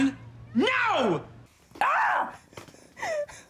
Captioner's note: screams